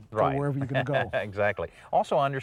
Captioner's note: chuckles